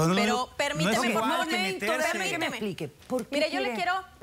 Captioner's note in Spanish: Hablan al unísono